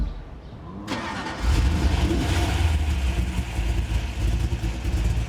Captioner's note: car engine starts